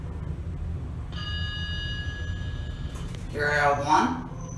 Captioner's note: ding